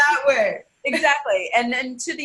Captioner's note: laughing